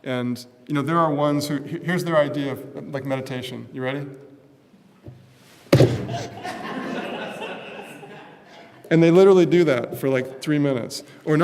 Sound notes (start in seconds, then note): 5.6 thud; 6.0 laughter